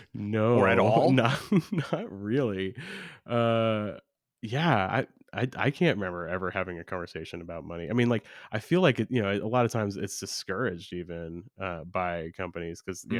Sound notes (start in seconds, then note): 0.6 laughs